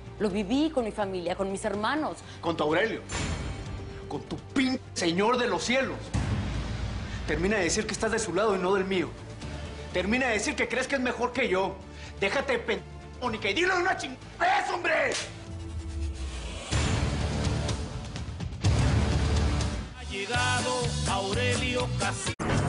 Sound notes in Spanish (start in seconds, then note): 15.1 Ruido de bofetada